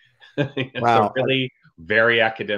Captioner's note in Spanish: se ríe